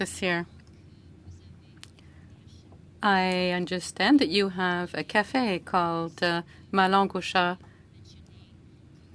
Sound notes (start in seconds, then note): 1.3 speaking French